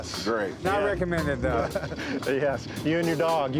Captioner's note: laughs